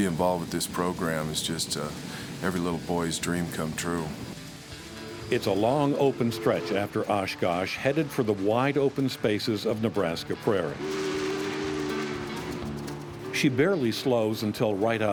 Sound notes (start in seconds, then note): 4.6 guitar music; 12.3 train horn blaring